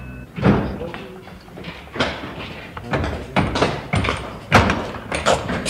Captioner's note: slamming of hard objects